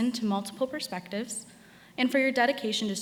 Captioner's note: none